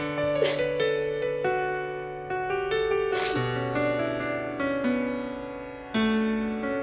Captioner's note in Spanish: Sollozos